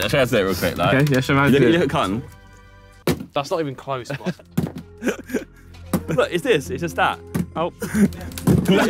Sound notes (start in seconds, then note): 3.0 bottle thuds; 4.5 bottle thudding; 7.3 bottle thudding